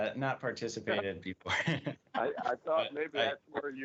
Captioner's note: laughter